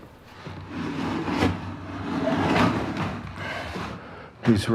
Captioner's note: dragging Sound